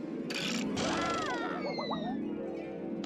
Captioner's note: Daffy yelling